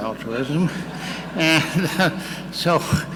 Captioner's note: audience laughing